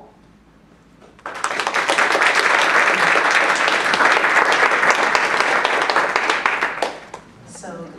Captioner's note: applause